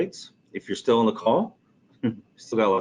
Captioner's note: chuckling